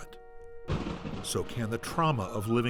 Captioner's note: thunder Booms